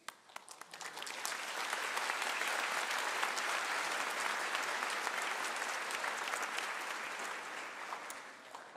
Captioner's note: applause